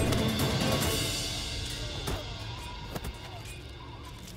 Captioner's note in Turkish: Kılıç sesleri; Rüzgâr esiyor